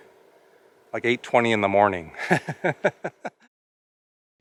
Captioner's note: laughter